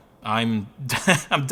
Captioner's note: chuckles